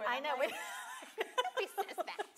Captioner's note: laughs